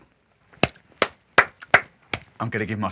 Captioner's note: claps loudly